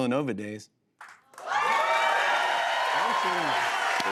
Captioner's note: cheers and applause